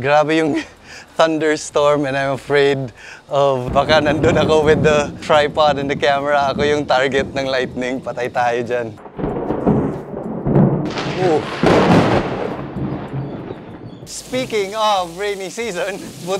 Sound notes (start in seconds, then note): 9.1 thunder rumbling